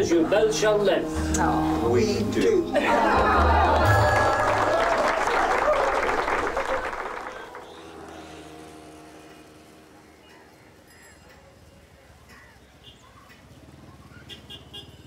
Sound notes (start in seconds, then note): 1.9 applause; 6.9 clock ticking